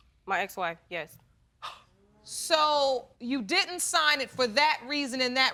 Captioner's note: gasping